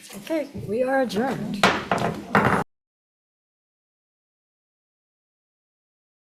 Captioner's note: gavel taps